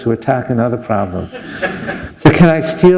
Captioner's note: laughter